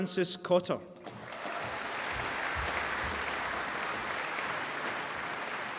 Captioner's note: applause